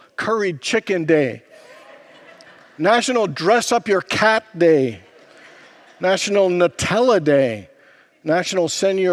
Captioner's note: congregants laugh